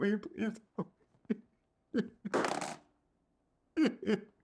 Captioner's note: sobbing